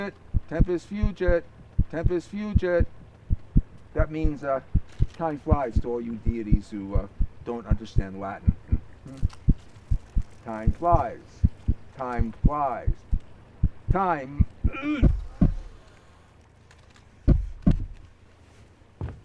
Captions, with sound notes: Tempest fugit. Tempest fugit. That means, uh, time flies to all you deities who don't understand Latin. Time flies. Time flies. Time... [moans in pain]